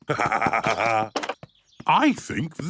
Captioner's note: laughs